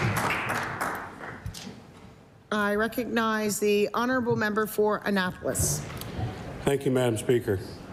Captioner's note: applause